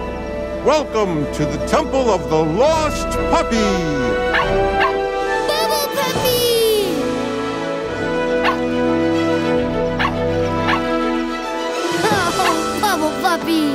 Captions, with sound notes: Welcome to the Temple of the Lost Puppy. [barking] Bubble Puppy! [barking] [barking] Oh, Bubble Puppy.